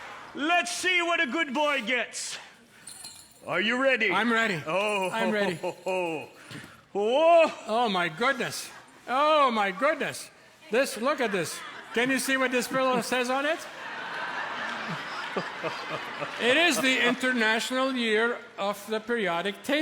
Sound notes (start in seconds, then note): 13.9 laughter